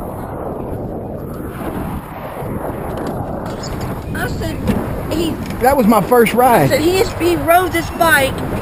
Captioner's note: wind howl, bike ride